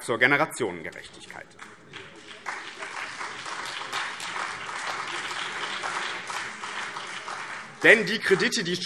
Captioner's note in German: Vereinzelter Beifall BÜNDNIS 90/DIE GRÜNEN und CDU